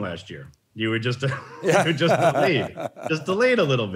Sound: laughs

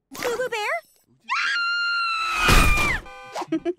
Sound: screaming; giggling

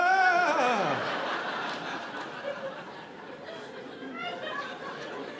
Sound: audience laughing

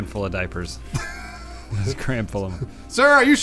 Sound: laughing

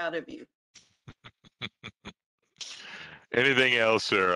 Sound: chuckling

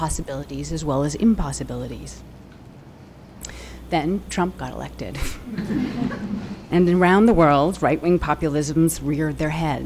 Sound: laughter

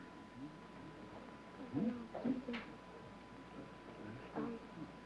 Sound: whispering

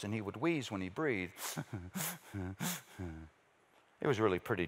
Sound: wheezes

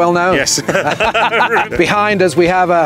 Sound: both laughing

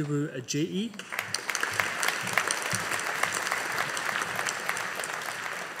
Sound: audience applauding

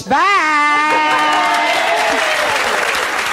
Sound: applause

